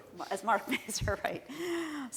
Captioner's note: laughing